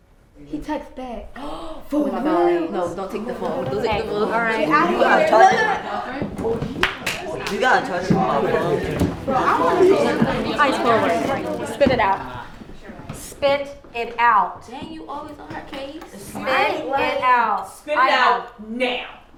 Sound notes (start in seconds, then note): 5.3 crowd talking